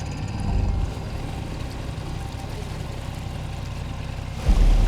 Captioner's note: water sloshing